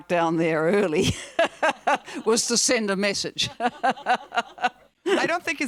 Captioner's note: laughs